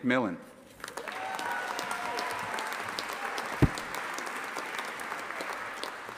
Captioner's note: audience applauding and cheering